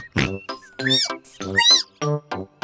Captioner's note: squeaks; oinks